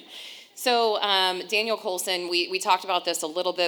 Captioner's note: laughing